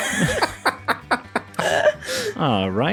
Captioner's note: laughter